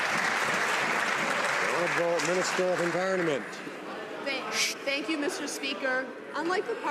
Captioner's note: some Applause